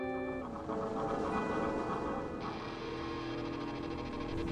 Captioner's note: soft, electronic music; mechanical chugging; slow mechanical whooshing; soft, ominous music